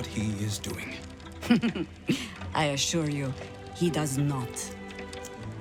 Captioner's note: laughing